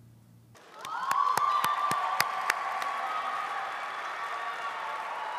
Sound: audience applauding

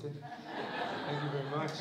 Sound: laughter

